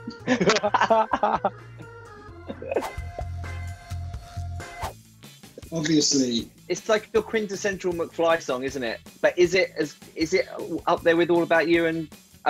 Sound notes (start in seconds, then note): 0.2 laughing; 2.8 swooshing; 5.7 playful music